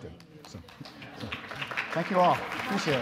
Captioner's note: audience applause